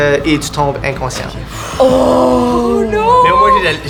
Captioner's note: sigh of relief